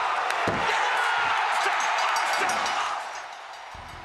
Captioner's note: bell dings